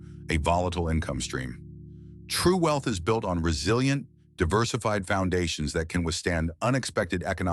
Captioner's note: SFX: low rumble